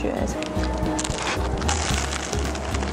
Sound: Crunch

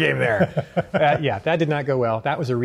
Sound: laughing

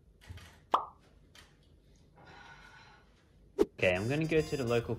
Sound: camera clicking

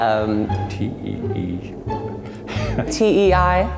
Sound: laugh

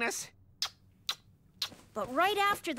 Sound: kiss, kiss

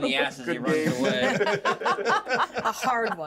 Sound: laughs

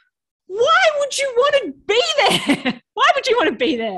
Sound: chuckles

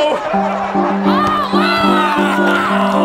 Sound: yelling; piano keys banging

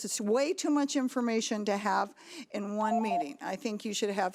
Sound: alarm beeping

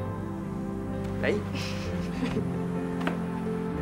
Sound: laughs

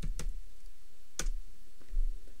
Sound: clicking

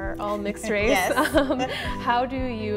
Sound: laughs

